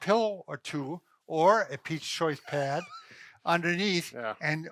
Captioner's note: chuckles